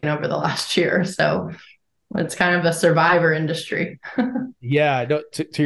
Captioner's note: chuckles